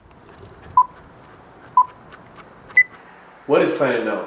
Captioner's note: loud beeping